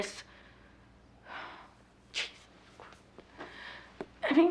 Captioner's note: sighs